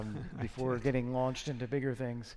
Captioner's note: laughs